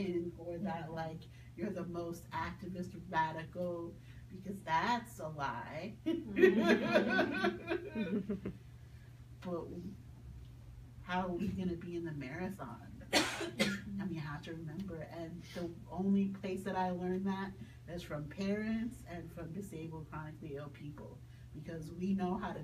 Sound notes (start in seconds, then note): 6.2 people laugh